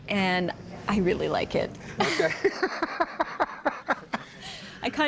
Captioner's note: all laugh